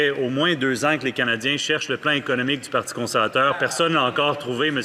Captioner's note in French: voix de l'interprète